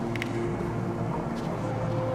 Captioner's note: clack